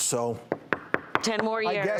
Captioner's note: knocking on desk